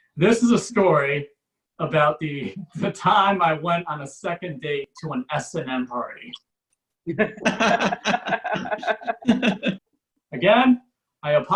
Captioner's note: audience Laughs